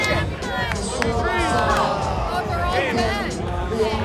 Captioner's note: groaning